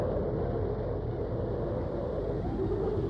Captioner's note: wind